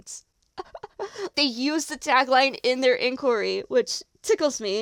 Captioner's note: delighted chuckle